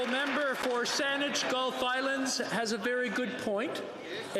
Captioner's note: some Applause